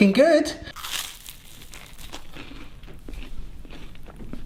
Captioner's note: toast crunching